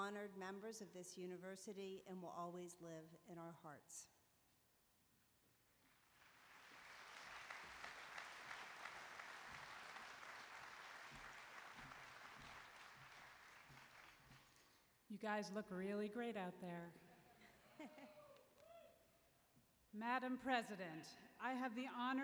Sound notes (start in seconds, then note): 5.8 applause